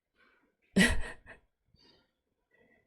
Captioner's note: laughs